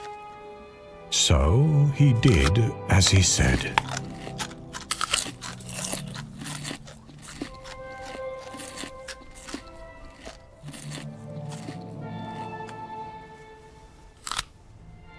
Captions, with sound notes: So, he did as he said. (teeth crunching)